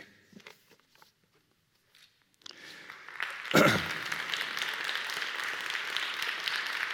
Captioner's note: applause